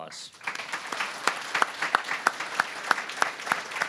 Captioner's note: applause